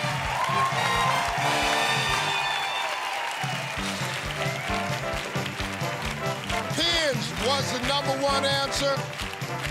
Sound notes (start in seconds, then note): 3.4 audience clapping rhythmically